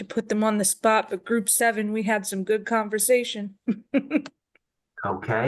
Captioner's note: laughs